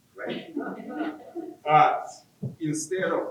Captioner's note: audience laughing